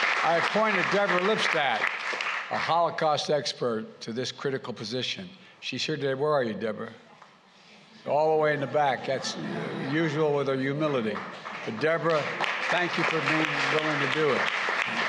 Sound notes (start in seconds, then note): 0.0 applause; 8.4 laughter